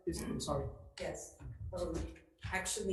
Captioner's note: faintly speaks